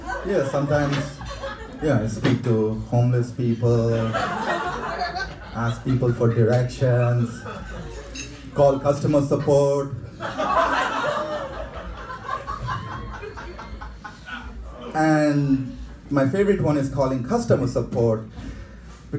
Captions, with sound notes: Yeah sometimes, yeah I speak to homeless people, (laughing) ask people for directions, call customer support. (audience laughing) And, my favorite one is calling customer support,